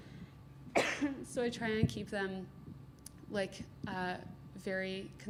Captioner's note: coughs